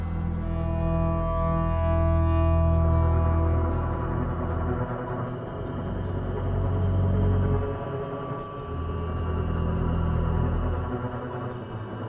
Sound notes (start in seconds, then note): none